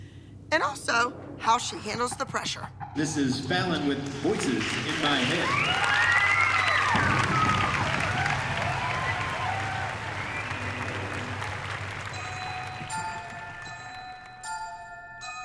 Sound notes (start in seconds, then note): 4.3 cheering